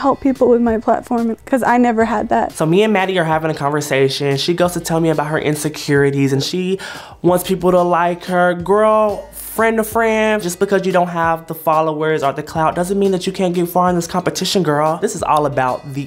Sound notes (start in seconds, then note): none